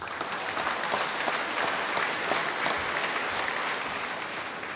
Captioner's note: applause